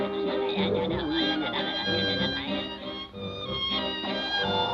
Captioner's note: Popeye chattering